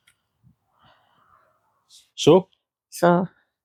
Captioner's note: none